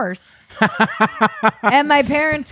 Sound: laughing

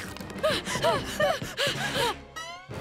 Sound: panting

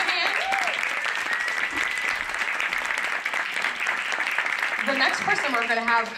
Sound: applause

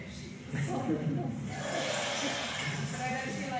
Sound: laugh track

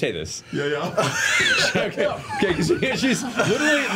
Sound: all laugh

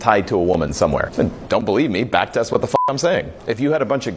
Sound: beep

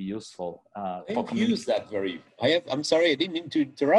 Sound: both chattering

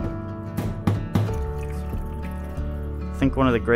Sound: upbeat music; sink pounding; liquid pouring

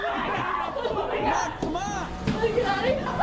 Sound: screaming

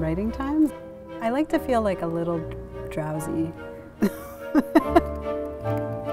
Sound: laughs

